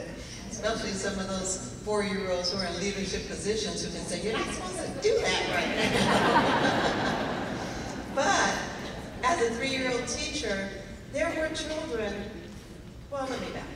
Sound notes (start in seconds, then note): 5.5 laughing